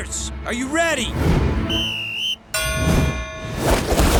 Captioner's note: whistle blowing, dinging